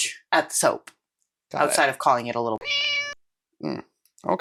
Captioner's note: meow